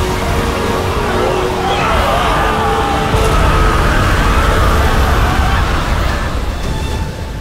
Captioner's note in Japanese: 兵士たちの悲鳴